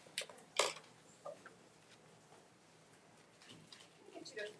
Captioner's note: camera click